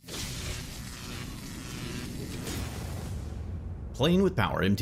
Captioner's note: electricity surging